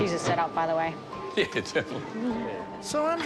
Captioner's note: laughs